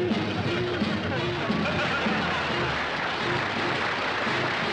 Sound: audience applauding

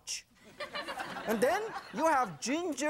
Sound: audience laughing

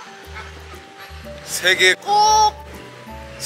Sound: laughing

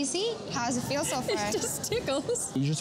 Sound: laughter

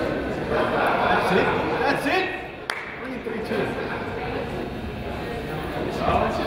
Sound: crowd laughs

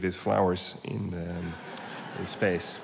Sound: laughter

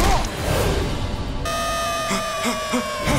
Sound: beeping

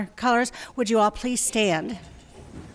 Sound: quiet marching

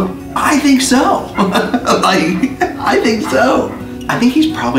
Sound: laughs

